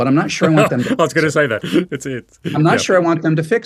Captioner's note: chuckling